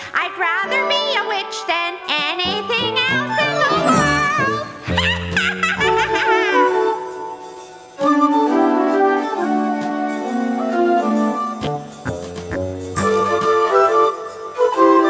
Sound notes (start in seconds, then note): 4.9 chuckling; 7.1 upbeat music